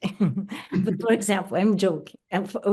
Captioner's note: laughs